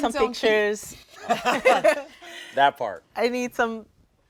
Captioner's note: laughing